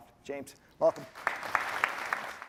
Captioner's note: applause